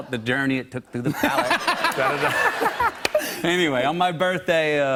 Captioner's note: laughter